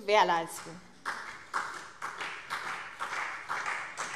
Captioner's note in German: Beifall CDU